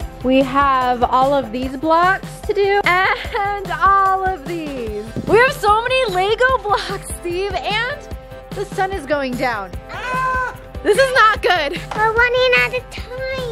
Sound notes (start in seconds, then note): 9.9 screaming